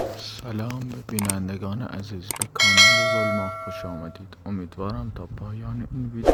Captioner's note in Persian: صدای زنگ